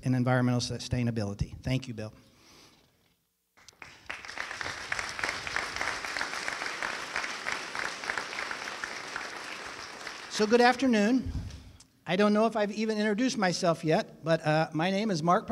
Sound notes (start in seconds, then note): 3.6 applause